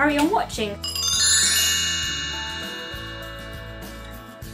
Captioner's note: bell transition sound effect